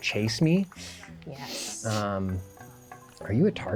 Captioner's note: laughs